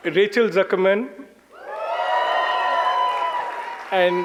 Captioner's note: audience cheers